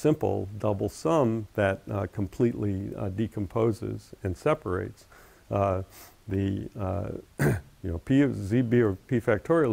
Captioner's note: cough